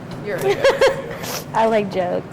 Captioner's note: student laughs